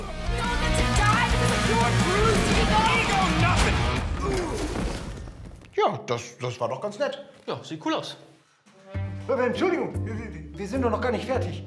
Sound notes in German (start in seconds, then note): 0.0 Flotte Rockmusik; 4.2 Ächzen